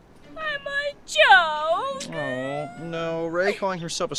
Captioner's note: cries